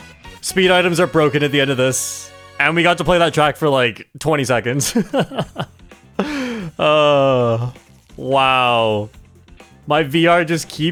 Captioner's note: laughs